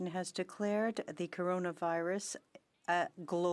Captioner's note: speaking French